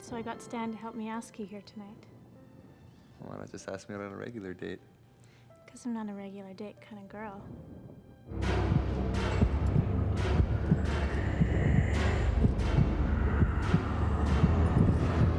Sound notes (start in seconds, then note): 8.4 heart beating; 13.1 deep breathing